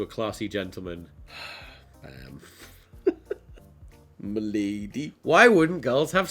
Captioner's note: deep sigh; giggles